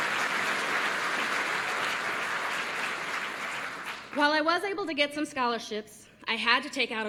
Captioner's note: applause